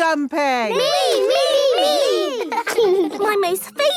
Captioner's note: laughing